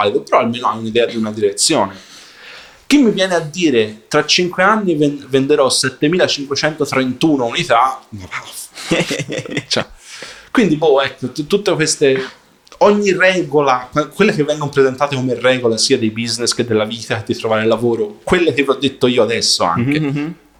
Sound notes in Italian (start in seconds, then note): 1.0 schiarire la voce; 8.8 risate